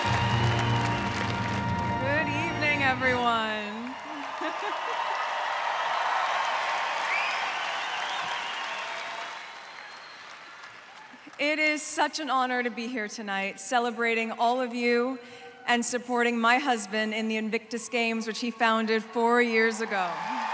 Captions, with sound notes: (CHEERING, APPLAUSE) Good evening, everyone. (CHUCKLES) (CHEERING, APPLAUSE) It is such an honour to be here tonight, celebrating all of you and supporting my husband in the Invictus Games, which he founded four years ago.